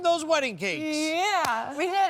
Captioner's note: hands slapping